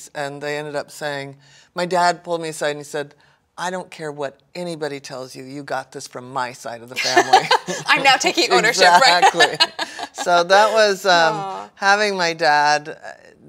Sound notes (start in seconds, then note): 7.0 laughs